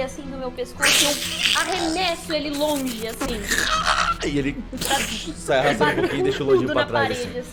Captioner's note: batmoth suffering sound